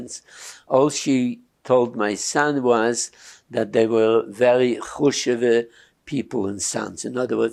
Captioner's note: yiddish